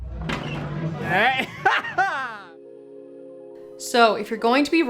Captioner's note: laughs